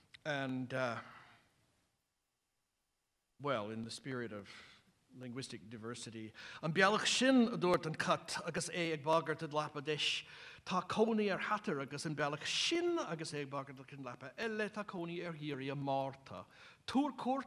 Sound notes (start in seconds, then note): 6.1 non-english speech